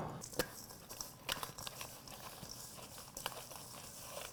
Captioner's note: ingredients shuffling